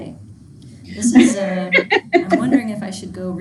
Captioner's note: student laughing